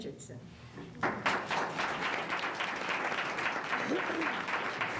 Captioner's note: applause